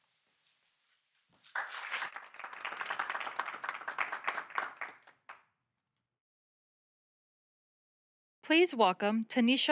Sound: applause

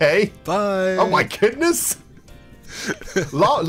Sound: chuckles

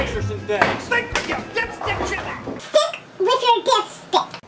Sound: Scottish accent

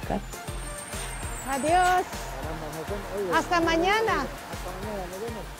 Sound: Spanish spoken audio

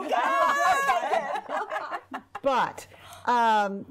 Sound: women laughing

